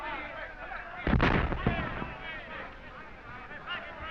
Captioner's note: explosions in distance